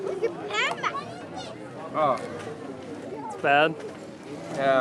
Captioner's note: speaking in foreign language